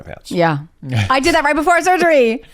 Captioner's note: chuckles